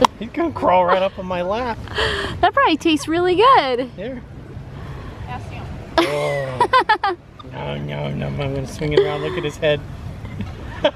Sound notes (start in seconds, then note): 6.0 laughs